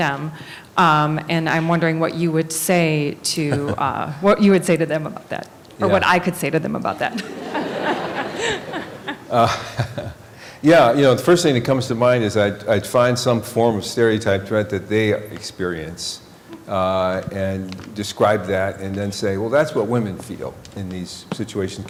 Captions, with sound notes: And I'm wondering what you would say to -- what you would say to them about that? Or what I could say to them about that? [Laughter] >> [Chuckling] Yeah, the first thing that comes to mind is I'd -- I'd find some form of stereotype threat that they experience, and describe that, and then say, well, that's what women feel in these situations.